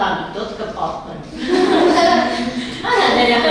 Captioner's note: laughing